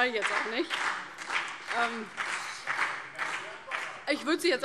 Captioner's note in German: Vereinzelter Beifall CDU und BÜNDNIS 90/DIE GRÜNEN